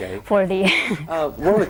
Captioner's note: chuckling